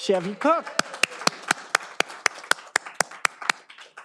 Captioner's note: all applauding